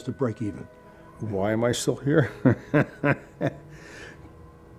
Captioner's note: laughs